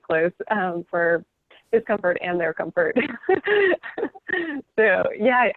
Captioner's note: laughing